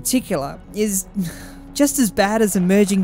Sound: le sigh

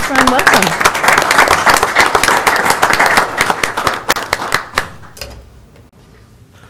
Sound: applause

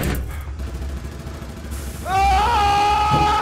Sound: gunshots and shriekers screaming; Adams screaming

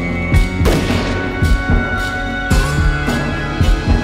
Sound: gunshot booms

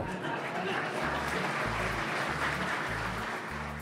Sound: laughter, applause

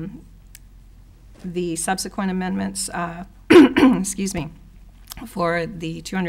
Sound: clearing throat

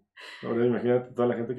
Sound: guys agreeing

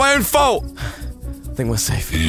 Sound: pant

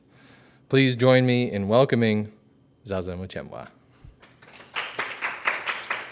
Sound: applause

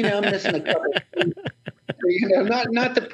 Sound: laughs

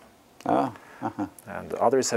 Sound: laugh

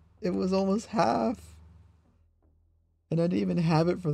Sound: silence

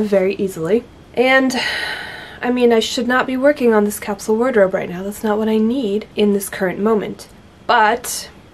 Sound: sigh

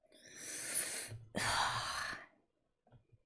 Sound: sharp inhale

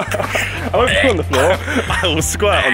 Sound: retching; both laughing

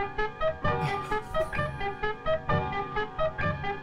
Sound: laughs

